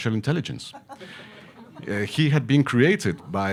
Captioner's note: audience laughing